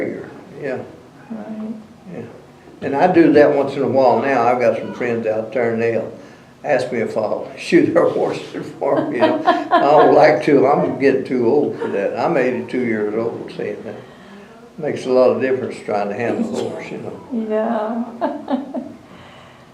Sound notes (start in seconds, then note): 8.8 laughter